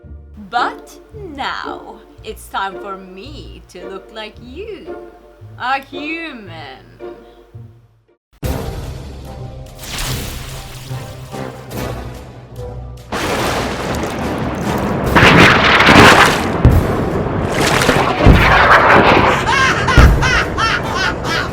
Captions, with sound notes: But now it's time for me to look like you, a human * Suspense music * *Thunder* *Cackle*